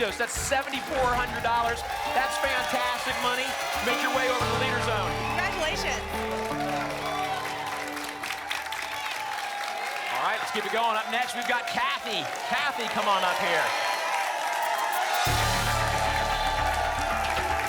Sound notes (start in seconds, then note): 6.7 applause and cheering; 14.4 static